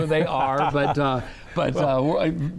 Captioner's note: laughs